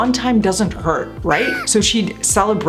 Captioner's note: angel screams